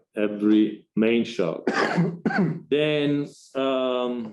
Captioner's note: audience member coughs